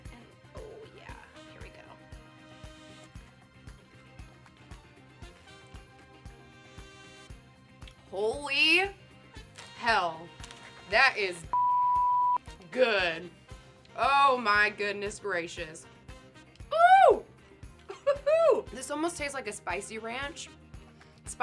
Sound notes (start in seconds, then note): 2.4 upbeat music; 11.5 beep